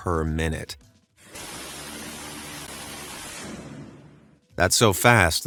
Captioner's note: gun blasting